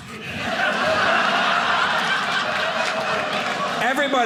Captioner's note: audience laughing